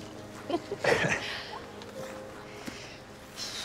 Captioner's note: both chuckling